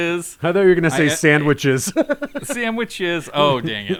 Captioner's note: chuckles